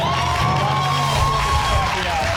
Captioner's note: audience cheering